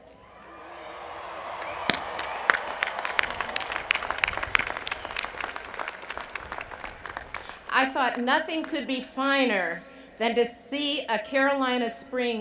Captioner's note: cheers and Applause